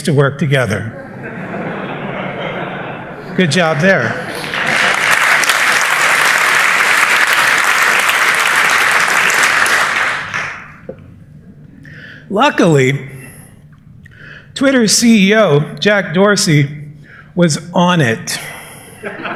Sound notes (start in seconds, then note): 0.8 laughter; 4.2 applause